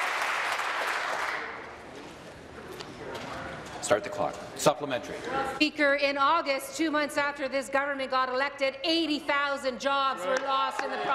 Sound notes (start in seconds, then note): 0.0 some Applause